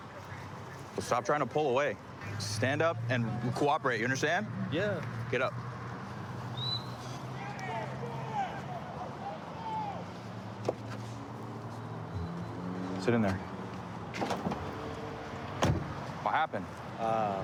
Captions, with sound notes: Well, stop trying to pull away. Stand up and cooperate. You understand? Yeah. Get up. [whistle] [indistinct shouting] [vehicles driving] Sit in there. What happened?